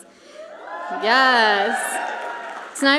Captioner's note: audience cheers and applauds